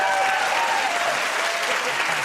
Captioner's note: cheers and applause